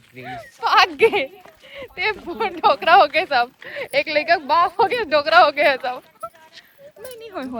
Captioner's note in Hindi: हंसी